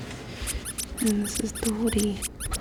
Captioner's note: squeaking